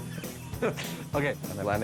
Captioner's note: laughing